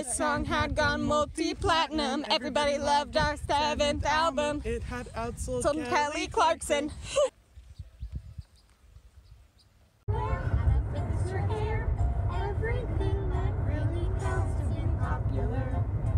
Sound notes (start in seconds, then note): 7.4 bird chirping